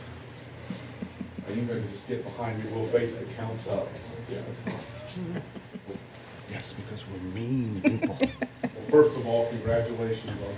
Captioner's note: laughter